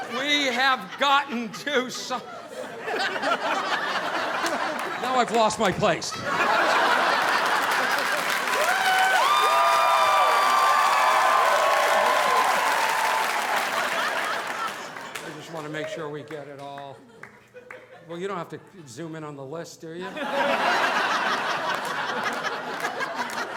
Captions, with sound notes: We have gotten too soft. (audience laughing) Now I've lost my place. (audience laughing) (audience applauding) I just want to make sure we get it all. Well, you don't have to zoom in on the list, do ya? (audience laughing)